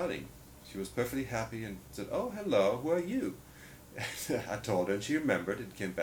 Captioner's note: laughs